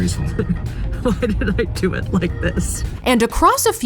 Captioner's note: chuckling